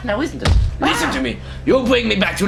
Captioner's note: parrot squawk